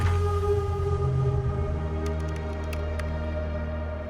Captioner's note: mysterious music; computer keys clicking